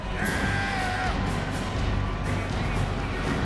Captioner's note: Goldberg screams